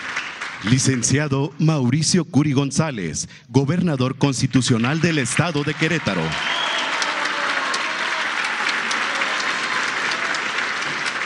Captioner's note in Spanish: aplausos